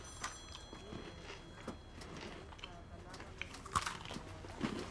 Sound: munching

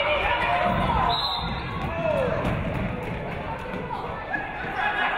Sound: referee whistles

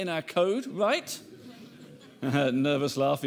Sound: audience laughing

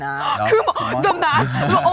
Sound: chuckles

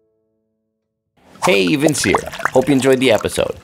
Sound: wine pours

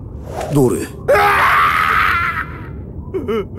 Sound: manly scream

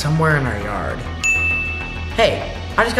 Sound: phone dings

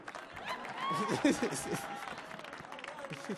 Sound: audience cheering; laughs

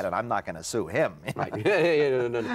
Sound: laughs

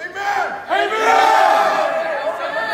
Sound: crowd

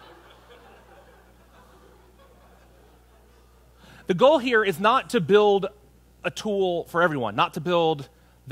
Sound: laughter

